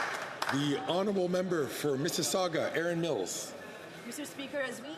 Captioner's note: some Applause